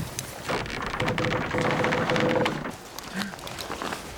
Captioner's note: loud creaking